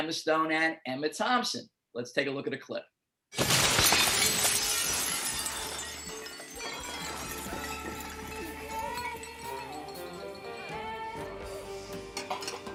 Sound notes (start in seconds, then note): 3.3 breaking glass